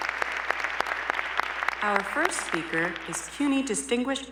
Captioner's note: applause